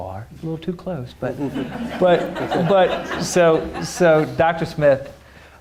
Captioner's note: audience laughing